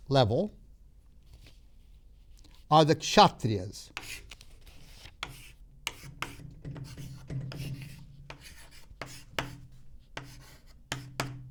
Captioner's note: chalk scraping; chalk tapping